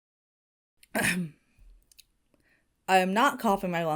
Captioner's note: Hana clears throat